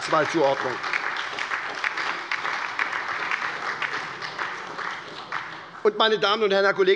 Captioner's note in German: Beifall bei der SPD